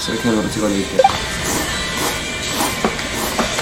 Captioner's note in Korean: 옆에서 들려오는 누군가의 라면 먹는 소리; 후루룩~; 후루루룩~